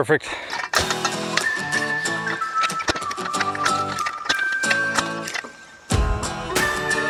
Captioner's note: metals clanking; upbeat music